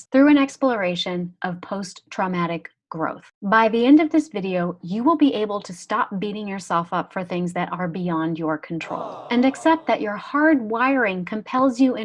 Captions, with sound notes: through an exploration of post-traumatic growth. By the end of this video, you will be able to stop beating yourself up for things that are beyond your control. - [Crowd] (jeering) - And accept that your hard wiring compels you